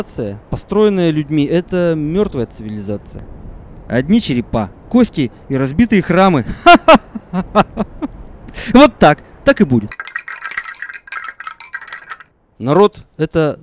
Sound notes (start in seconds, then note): 6.5 laughs